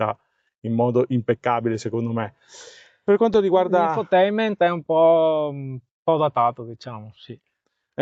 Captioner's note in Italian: sbuffare